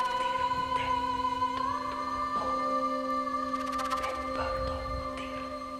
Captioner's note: soft suspenseful music; whispering continues